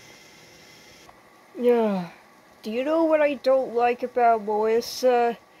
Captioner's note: sighs